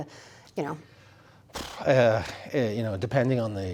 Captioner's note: sighs